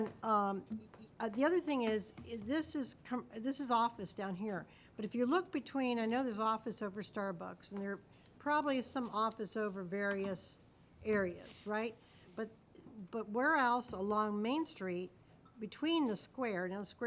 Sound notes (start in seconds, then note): none